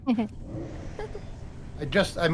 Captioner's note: laughs